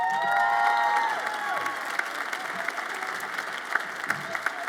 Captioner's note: audience applauds and cheers